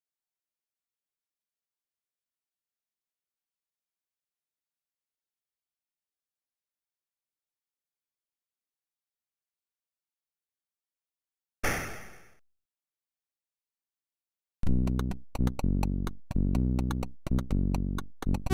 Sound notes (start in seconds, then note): 11.6 gun shot; 16.2 country-style music